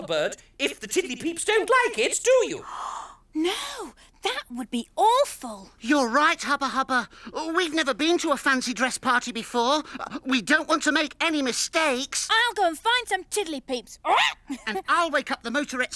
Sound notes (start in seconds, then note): 2.6 gasps; 13.9 Tula screeches